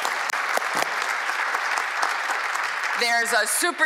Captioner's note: applause